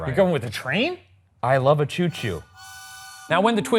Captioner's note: train hooting